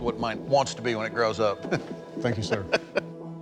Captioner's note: laughs